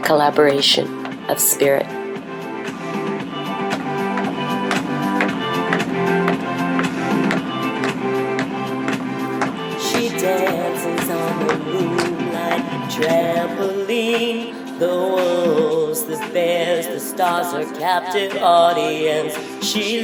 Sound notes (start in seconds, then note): 7.2 tapping continues; 8.8 uplifting music